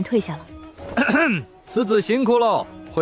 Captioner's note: cough cough